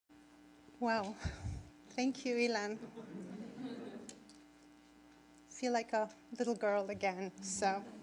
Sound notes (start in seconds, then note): 2.8 audience laughing; 2.8 chuckles